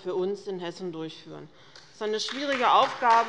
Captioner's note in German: Allgemeiner Beifall